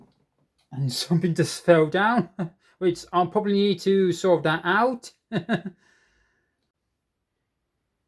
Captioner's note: chuckles